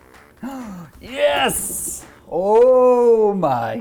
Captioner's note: gasps